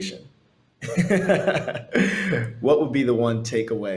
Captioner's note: laughs